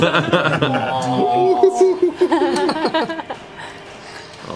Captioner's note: laughter